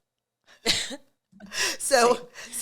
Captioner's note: both scoff